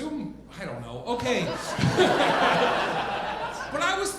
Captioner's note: audience laughing